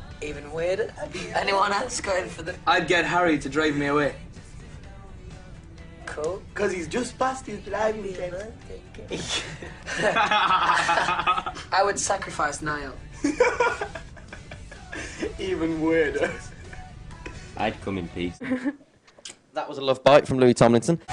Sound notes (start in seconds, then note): 9.2 really loud laugh; 14.5 laughs